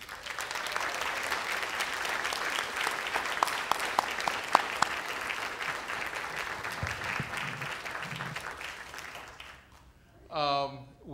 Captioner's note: applause